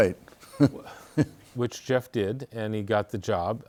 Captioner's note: laughs